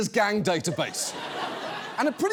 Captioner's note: studio audience laughs